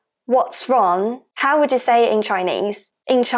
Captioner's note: Mandarin